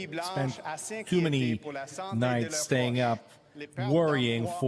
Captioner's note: speaking French